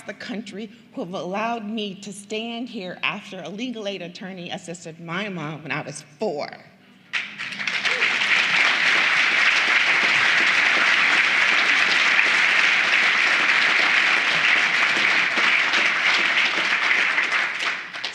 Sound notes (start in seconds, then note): 11.9 applause